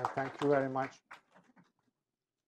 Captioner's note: applause